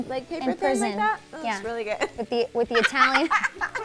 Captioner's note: laughs